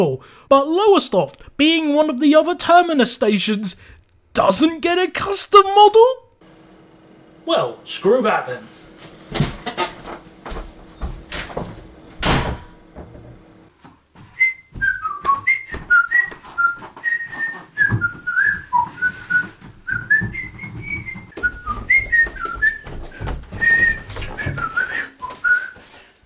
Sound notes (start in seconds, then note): 12.1 slams door; 14.2 whistling